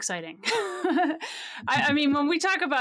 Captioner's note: laughs